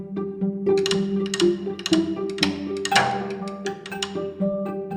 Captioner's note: gentle upbeat music; mechanical ticking